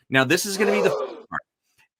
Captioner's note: group of people gasps